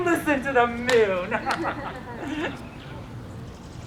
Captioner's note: laughing